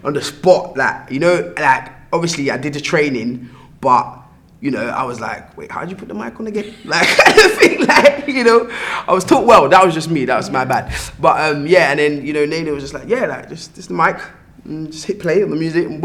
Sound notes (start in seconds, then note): 6.6 laugh